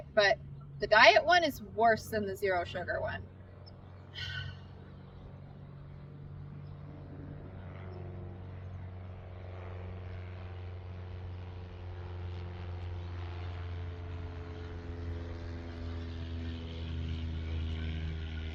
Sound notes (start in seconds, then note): 4.1 exhales loudly; 4.6 plane whirring